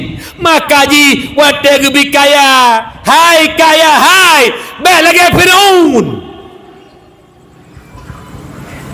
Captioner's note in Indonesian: berteriak